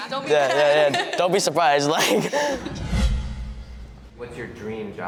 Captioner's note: laughs